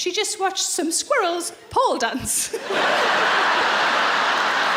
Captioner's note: laughing